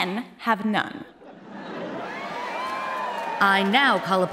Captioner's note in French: Applaudissements